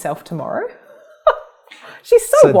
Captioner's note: laughs